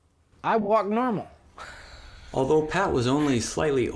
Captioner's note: laughs